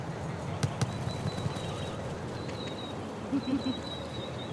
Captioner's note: birds chirping